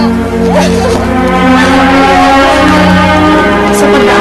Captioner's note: crying